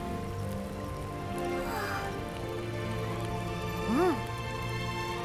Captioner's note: sigh